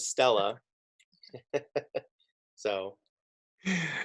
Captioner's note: laughing